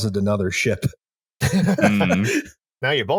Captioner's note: laughter